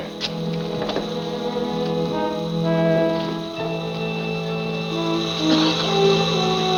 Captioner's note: gas hissing; ominous music continues